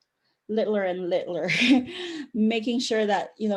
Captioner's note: chuckle